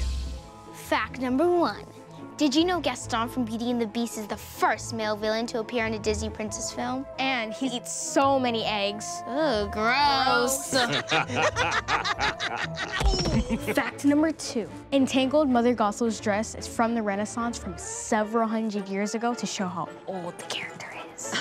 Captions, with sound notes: Fact number one! Did you know Gaston from Beauty and the Beast is the first male villain to appear in a Disney Princess film? And he eats so many eggs! Ew, gross! (cheerful laugh) Fact number two! In Tangled, Mother Gothel's dress is from the renaissance from several hundred years ago to show how old the character is